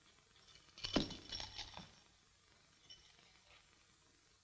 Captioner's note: handcuffs clatter